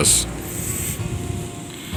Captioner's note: sniff